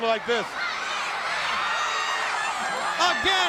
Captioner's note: crowd cheering